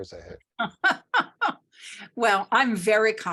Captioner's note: laughs